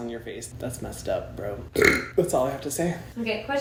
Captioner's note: burps